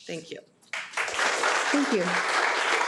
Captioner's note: audience applauding